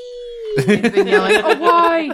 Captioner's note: laughter